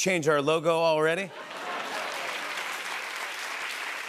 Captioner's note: laughter and applause